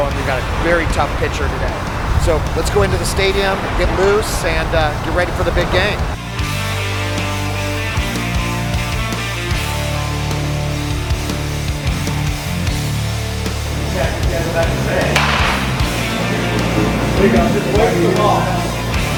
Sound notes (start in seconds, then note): 6.9 rock music playing; 13.7 batting practice sounds